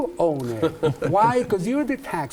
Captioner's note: laugh